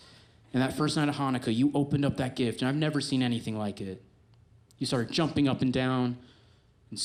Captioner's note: none